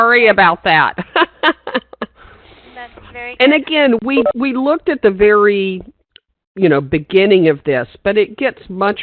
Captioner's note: laughing